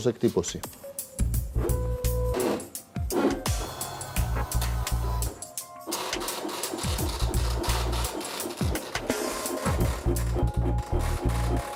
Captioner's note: braille embossing sound